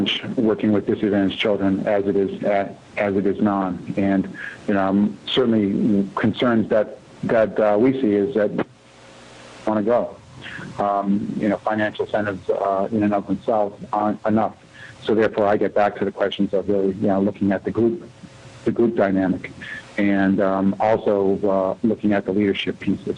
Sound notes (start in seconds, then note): 8.4 audio cutting in/out